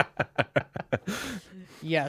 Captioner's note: laughing